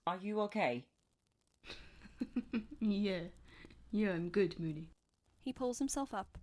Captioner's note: James laughs